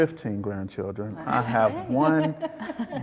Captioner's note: woman laughs